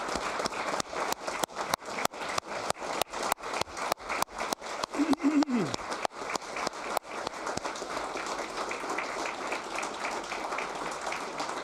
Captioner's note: applause